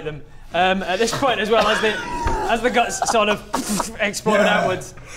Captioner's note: pffft